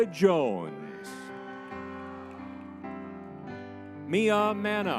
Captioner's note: crowd cheering